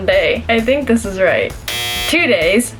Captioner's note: buzzer